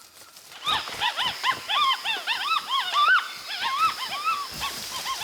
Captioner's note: monkeys chittering